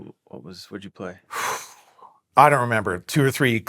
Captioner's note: phew